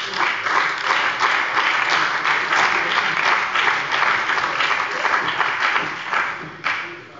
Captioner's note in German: Beifall bei der CDU und dem BÜNDNIS 90/DIE GRÜNEN